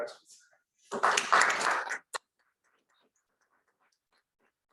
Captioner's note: audience applauds